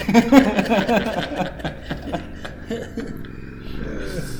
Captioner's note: both laughing